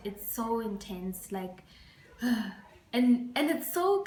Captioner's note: sigh